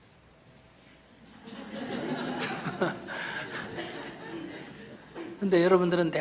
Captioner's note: /Audience Laughter